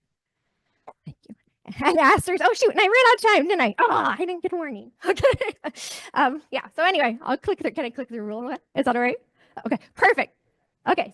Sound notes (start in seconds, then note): 4.9 chuckles